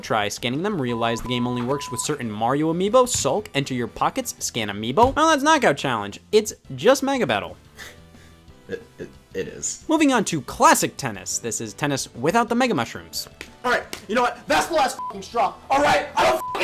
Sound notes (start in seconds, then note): 8.6 chuckes; 16.3 beep